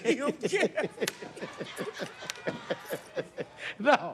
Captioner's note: laughter